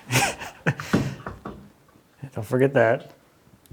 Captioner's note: laughs